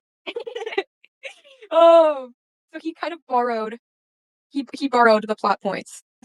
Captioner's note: laughing